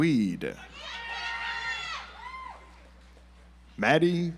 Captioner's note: audience applauds